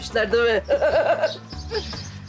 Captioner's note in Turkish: Gülme sesi